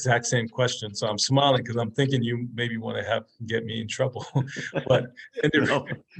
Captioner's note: laugh